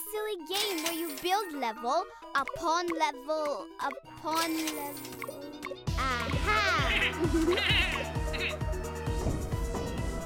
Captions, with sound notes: where you build level, upon level, upon level... Ah-ha! (bleating)